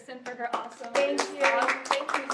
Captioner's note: applause